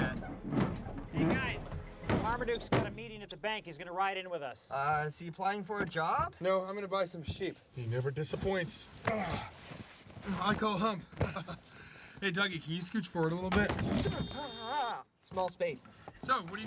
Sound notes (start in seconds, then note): 9.0 grunts; 11.2 chuckles